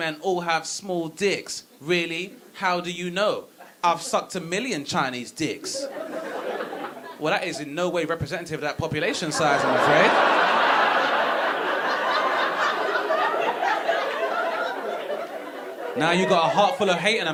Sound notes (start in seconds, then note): 5.7 audience laughing; 9.0 audience laughing